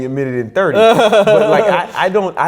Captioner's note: laughs